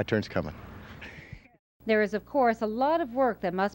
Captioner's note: chuckles